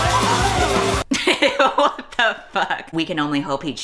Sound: laughs

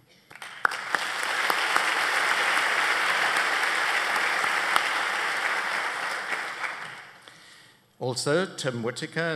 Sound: applause

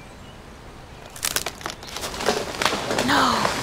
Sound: tree trunk cracking

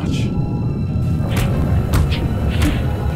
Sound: blows Landing

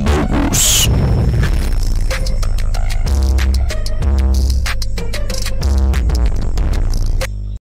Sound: amogus sound intesifies

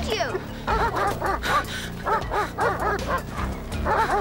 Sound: barking

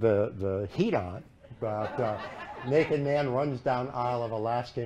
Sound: laughter

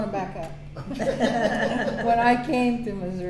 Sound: laughter

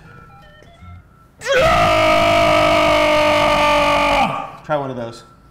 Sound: screams

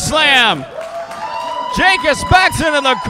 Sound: crowd cheering

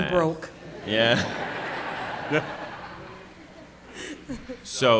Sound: laughter

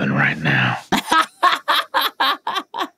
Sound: laughing

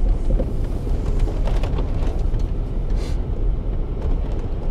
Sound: truck rumbling quietly

